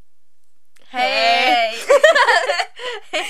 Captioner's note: laugh